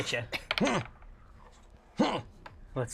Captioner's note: grunts